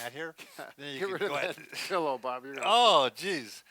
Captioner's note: chuckles